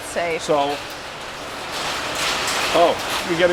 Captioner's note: rain whooshing